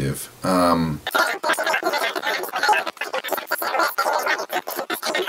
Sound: sped up speaking

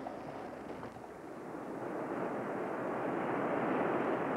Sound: surf roaring

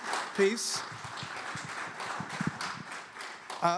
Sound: applause

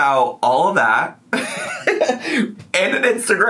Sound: laughs

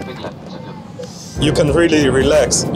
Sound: seat rattling

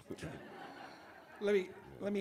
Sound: audience laughs

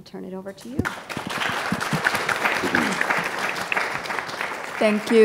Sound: audience applauding

